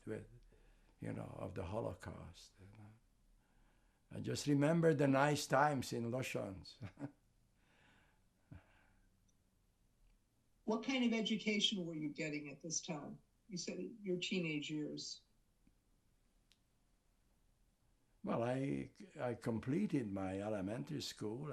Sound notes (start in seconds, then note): 6.7 laughing